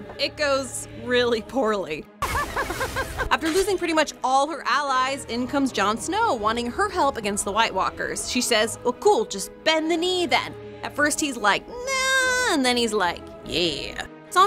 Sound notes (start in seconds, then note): 2.3 laughing